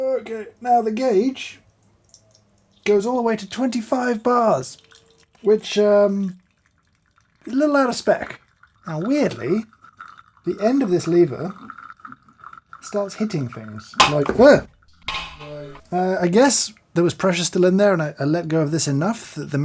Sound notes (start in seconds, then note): 14.0 a loud pop!